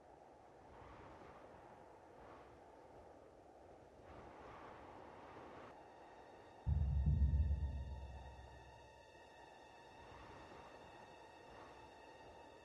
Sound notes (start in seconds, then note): 6.6 wind blowing; 6.6 suspenseful music